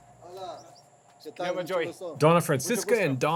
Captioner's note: speaking Spanish